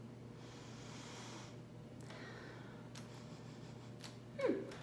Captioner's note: breathes in